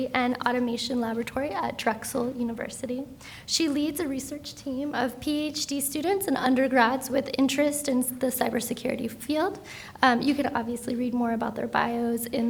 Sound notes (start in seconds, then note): none